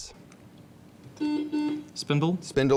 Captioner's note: buzzing